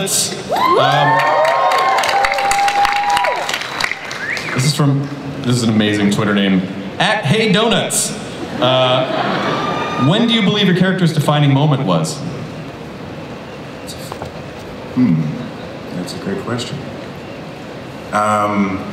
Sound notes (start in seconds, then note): 0.5 audience applauds and cheers; 8.3 audience laughs